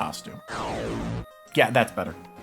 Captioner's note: fuckass sound effect plays